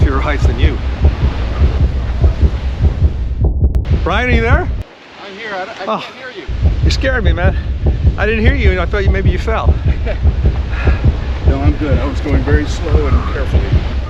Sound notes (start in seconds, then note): 2.2 loud heartbeat sound; 9.6 Brian chuckles